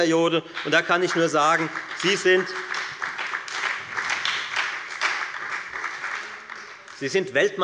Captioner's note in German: Beifall bei der FDP und der SPD